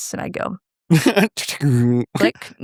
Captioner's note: both laughing